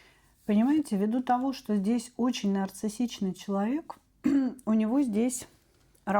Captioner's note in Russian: откашливается